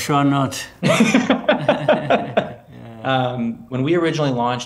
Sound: Keller and President Kagame laughs

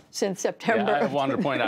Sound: laughter

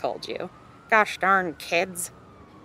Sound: exaggerated voice

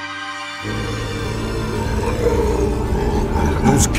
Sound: growling

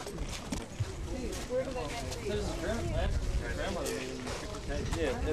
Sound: russian speech; chatter

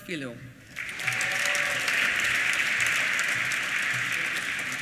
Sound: applause

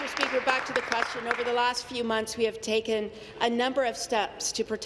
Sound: applause

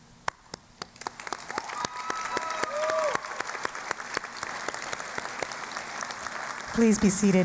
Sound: applause and Cheering

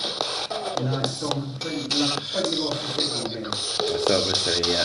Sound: mumbling

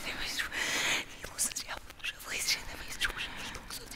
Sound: ghostly whispering

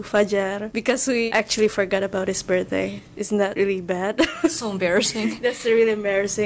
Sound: chuckles

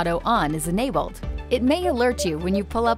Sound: PDW beeping

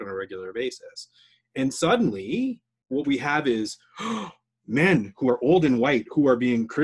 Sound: gasps

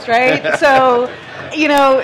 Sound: laughs

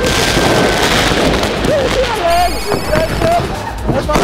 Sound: these fireworks are so loud, guys!

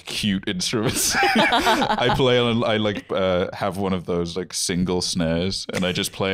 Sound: laughing

